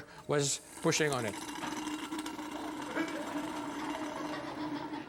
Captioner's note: liquid gurgling